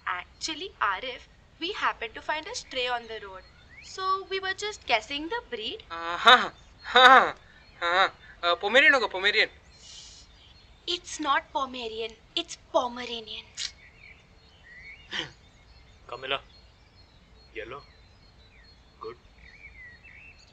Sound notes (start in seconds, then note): 8.3 mispronounces twice; 9.7 seethes; 15.1 snickers angrily